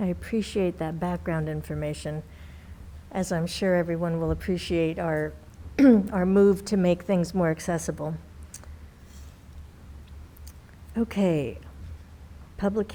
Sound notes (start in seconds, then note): 5.8 clears throat